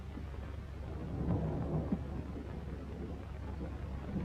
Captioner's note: thunder rumbling